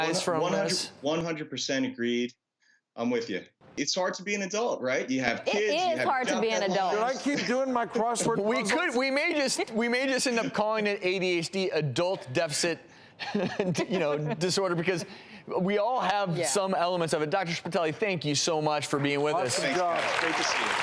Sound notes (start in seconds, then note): 13.3 laughs; 19.1 crowd applauds